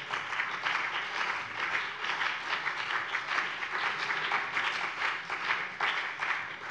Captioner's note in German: Beifall BÜNDNIS 90/DIE GRÜNEN und vereinzelt CDU